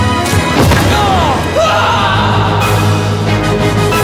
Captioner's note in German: Schrei!